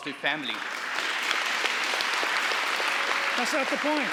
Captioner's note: audience applauding